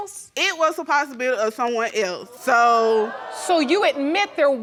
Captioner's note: audience exclaiming